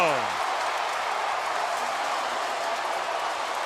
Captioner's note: cheering